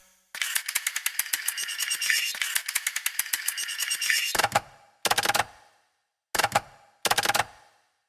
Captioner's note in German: Zahnradgeräusch